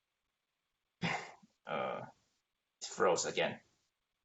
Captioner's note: sighs